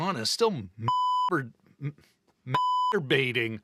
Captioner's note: beep